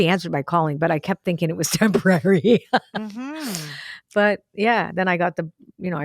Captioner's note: laughs